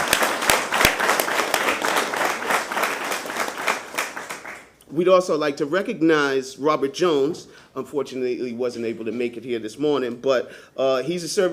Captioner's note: applause